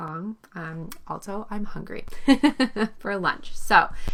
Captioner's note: laughs